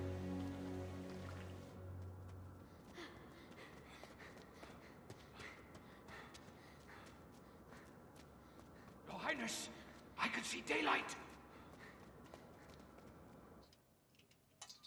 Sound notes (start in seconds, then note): 3.0 panting